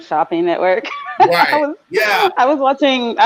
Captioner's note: laughing